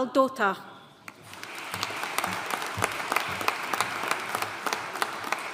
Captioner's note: audience applauding